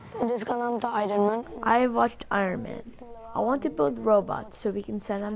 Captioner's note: through translator